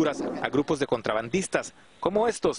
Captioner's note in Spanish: habla en inglés